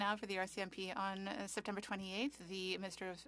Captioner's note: speaking French